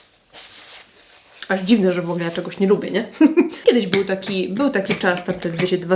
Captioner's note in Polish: śmiech